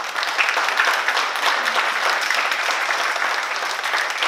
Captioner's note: oklaski